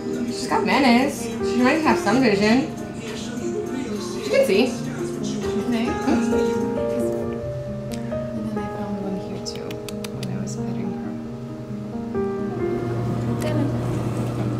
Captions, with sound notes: She got minus, she might have some vision. She can see. You think? Mm hm. This one. And then I found one here too. [Tongue clicks] When I was petting her. Come on.